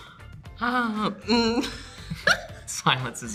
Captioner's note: multiple laugh; clears throat; laughs